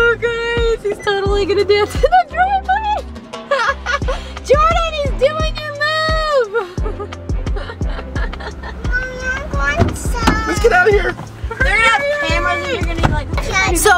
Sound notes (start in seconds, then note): 3.4 laughing; 8.1 laughing